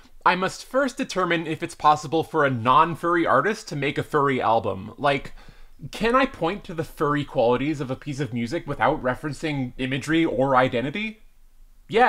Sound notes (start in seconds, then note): none